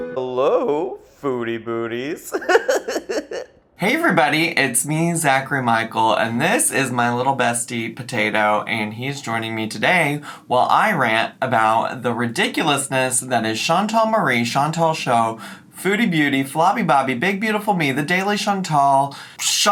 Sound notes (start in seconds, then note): 0.0 arcade-style music; 2.2 laughs